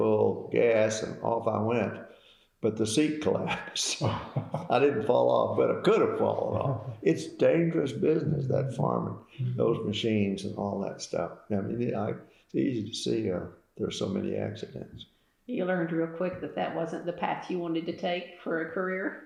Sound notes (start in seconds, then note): 4.0 laughter